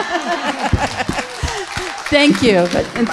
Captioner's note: audience laughing; audience applauding